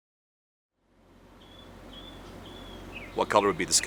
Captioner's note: birds chirping